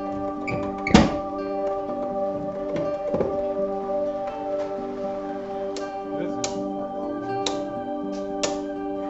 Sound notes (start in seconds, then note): 0.0 ambient music; 0.6 metal clanking